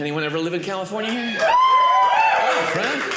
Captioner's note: audience cheering